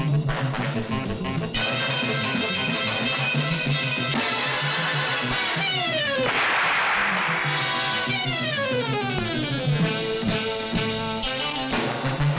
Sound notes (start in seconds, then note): 6.2 gun shoots; 8.7 tense music continues